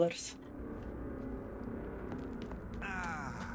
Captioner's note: groans